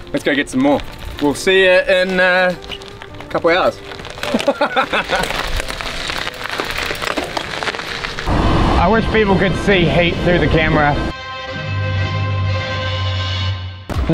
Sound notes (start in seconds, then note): 4.2 laughs; 11.5 trap music plays